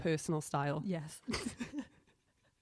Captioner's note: both laugh